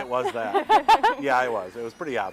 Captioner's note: both laughing